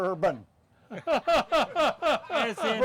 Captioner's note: laughs